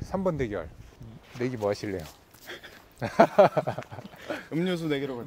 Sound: laughter

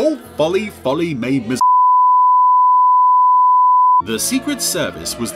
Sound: beeping

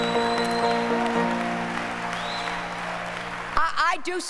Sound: applause

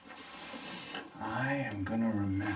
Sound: sniffing sound

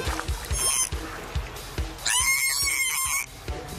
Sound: dolphin screeches

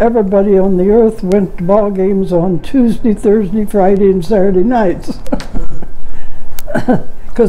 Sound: chuckling

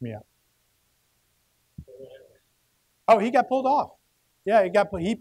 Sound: murmuring

